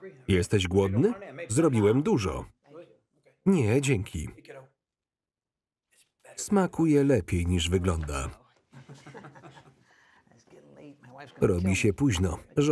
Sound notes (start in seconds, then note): 8.7 laughs